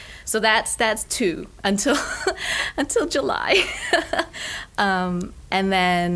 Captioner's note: laughs